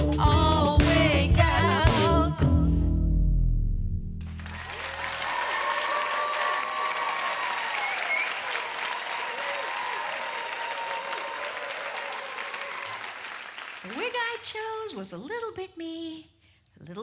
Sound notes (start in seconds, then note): 4.3 audience applause